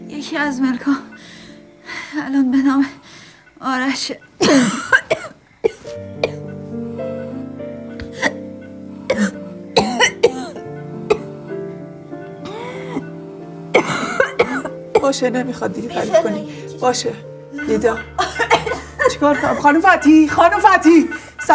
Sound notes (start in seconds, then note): 4.4 coughing; 12.4 heavy breathing